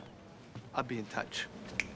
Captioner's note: snaps fingers